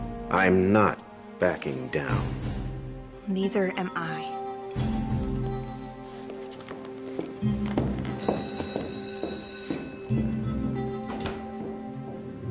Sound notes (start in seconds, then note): 8.1 school bell rings